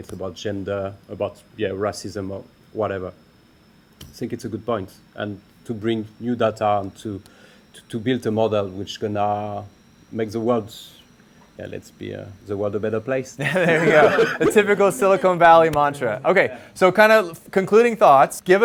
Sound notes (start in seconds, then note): 13.4 laughter